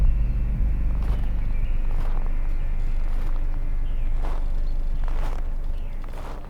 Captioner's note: suspenseful music thumps; snow crunching beneath footsteps